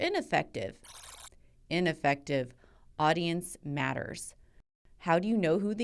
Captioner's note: buzzer